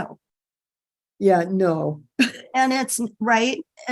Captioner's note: chuckling